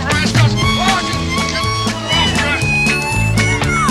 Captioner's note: all yelling